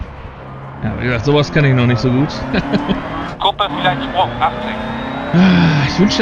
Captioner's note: laughs